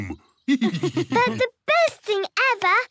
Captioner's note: laughs